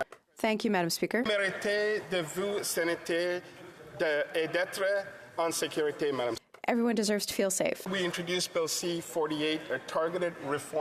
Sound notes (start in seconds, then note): 2.6 speaking in French